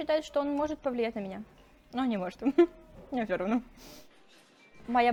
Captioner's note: giggles